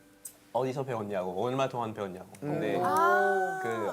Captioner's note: French